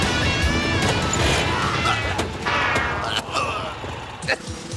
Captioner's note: coughing